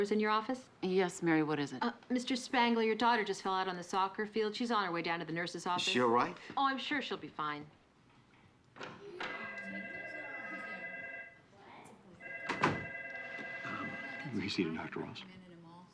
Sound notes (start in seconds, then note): 9.2 telephone ringing; 13.3 whispering